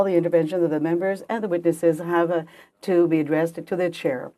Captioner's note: speaking French